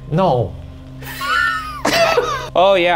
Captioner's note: both laugh